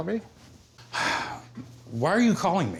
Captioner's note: sighs